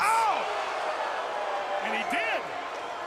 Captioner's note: crowd cheering